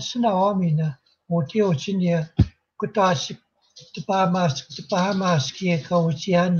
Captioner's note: speaking Indigenous language